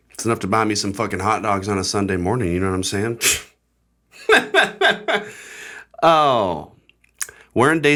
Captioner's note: weird laugh